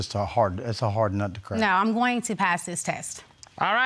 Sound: none

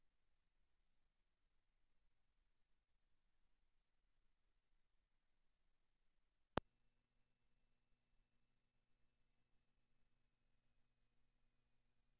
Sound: silence

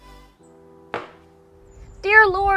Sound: foot stomps

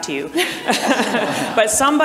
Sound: chuckling

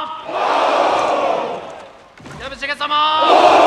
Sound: cheering

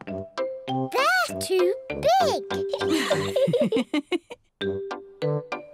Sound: laughs

